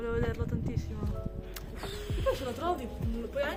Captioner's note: sad sounds